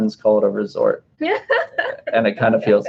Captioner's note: laughing